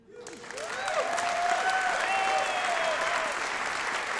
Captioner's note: applause